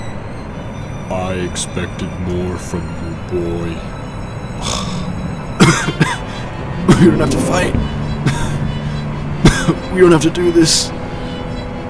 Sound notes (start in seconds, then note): 4.5 scoffs; 5.4 injured coughing